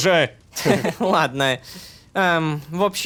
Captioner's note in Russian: Лёгкий смех